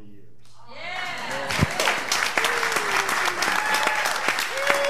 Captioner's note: applause and cheers